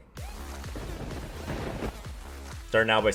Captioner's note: thunder rumbling; rock music